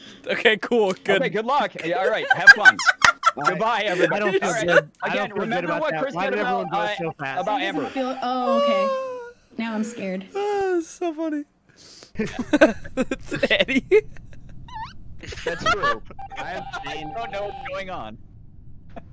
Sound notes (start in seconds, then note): 2.7 laughter; 4.2 laughing; 5.3 laughter; 7.7 sighs; 12.1 laughter; 15.2 laughing